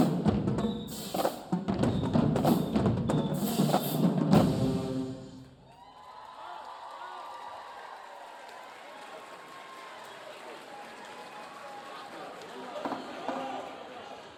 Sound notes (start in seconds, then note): 5.3 audience cheering; 5.6 audience applauding